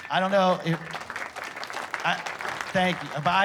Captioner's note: applause